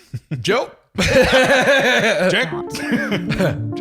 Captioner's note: laughing